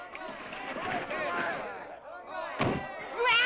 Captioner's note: door thumps